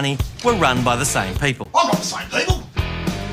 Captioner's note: bogan accent; posh accent